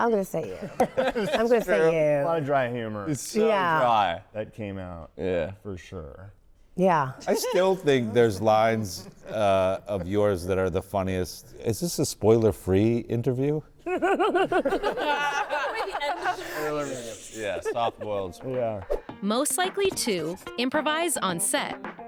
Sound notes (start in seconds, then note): 13.8 all laughing